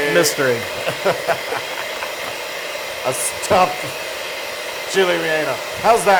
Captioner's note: laugh